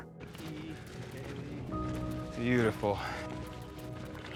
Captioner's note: footsteps